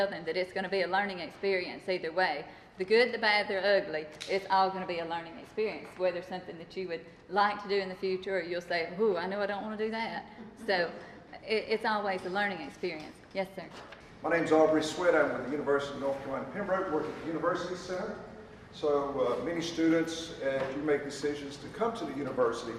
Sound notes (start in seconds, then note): 10.3 chuckles